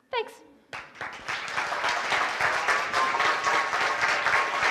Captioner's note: applause